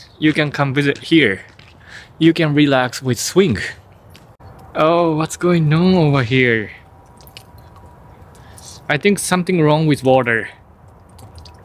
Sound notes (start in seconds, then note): 6.9 dripping water